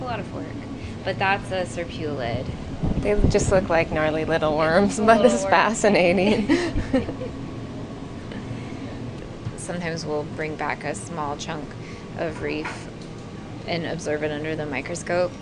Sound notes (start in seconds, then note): 6.1 both laugh